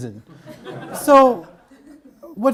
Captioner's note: audience laughs